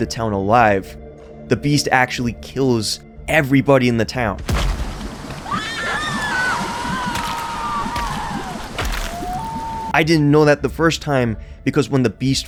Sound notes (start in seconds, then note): 7.1 screams of terror